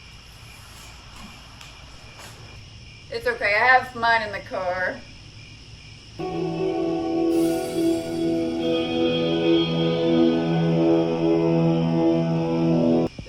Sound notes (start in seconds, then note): 5.1 crickets; 6.2 eerie country music